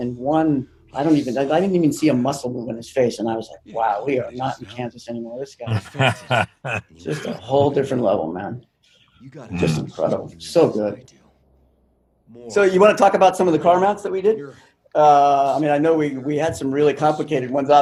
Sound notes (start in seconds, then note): 5.6 chuckles